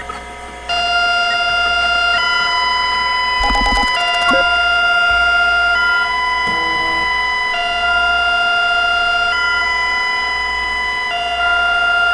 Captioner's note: broadcast repeats itself